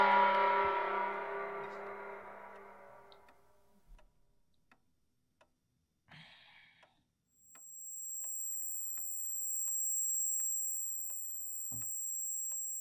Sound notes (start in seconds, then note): 2.0 clock ticking; 6.4 ringing